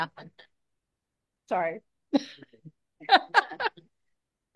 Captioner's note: laughs